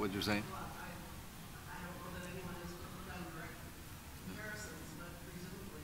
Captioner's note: woman speaking off-microphone